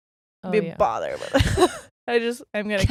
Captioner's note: both laughing